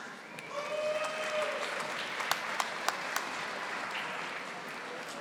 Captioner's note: audience applauding